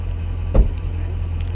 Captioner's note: car door slamming